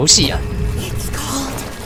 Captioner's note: Mommy Long Legs makes a strange machine sound before he transforms, chip?